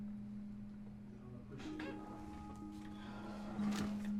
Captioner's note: office ambiance